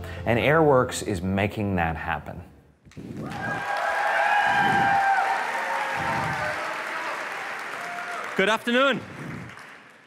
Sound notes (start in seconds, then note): 3.2 applause